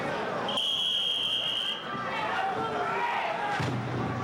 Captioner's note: whistling